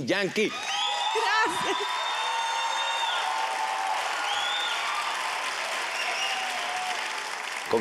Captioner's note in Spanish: exclamaciones